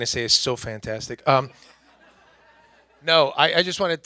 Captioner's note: everyone laughs